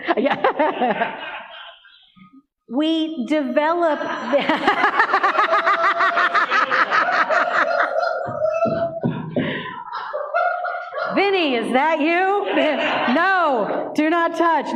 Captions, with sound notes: No. We develop... [Rings again] Vinnie, is that you? No, do not touch. No.